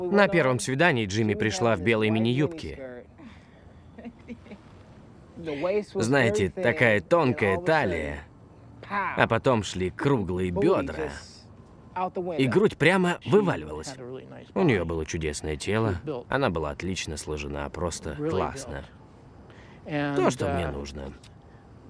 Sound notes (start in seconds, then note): 3.9 giggles